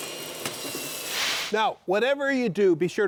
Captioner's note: screen whooshing